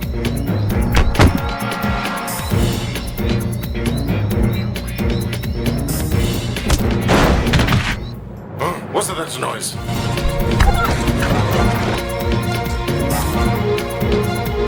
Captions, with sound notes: (Lively beat music) (Punch thudding) - Huh, what's that noise? (Lively tempo music)